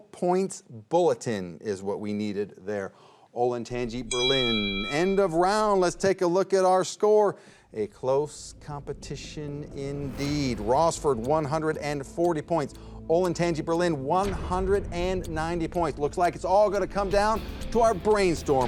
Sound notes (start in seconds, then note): 4.0 bell clangs